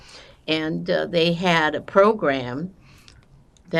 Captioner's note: none